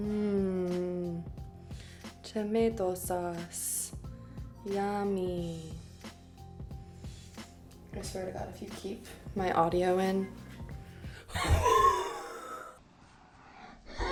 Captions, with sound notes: Mmmh, tomato sauce yummy. (upbeat music) I swear to God if you keep my audio in, (shrieks)